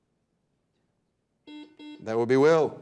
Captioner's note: buzzer dings